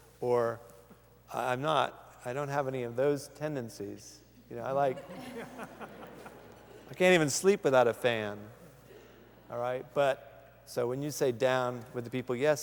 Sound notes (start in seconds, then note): 4.8 laughter